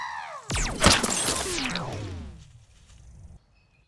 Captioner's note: imitating bird; distant laser shot